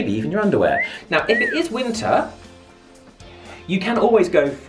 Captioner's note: cat call whistling